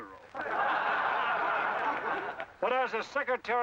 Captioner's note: men laugh